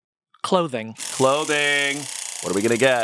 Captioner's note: wheel rattles